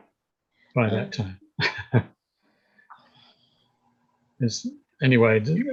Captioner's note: chuckles